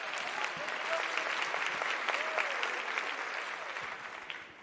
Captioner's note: applause